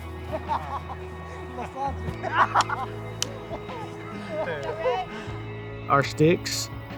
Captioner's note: players laugh